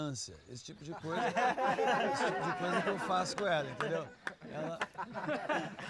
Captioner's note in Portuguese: todos rindo